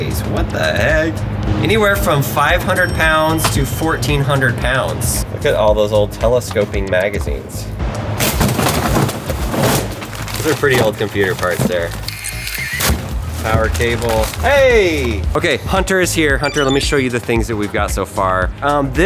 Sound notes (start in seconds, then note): 8.3 computer parts rattling; 9.7 box thudding